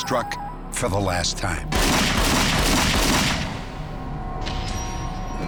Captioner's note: gunshots